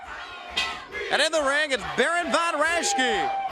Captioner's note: bell ringing